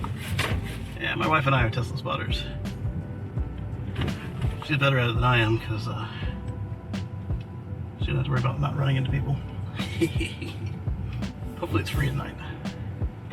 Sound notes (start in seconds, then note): 9.8 haggard jestful giggle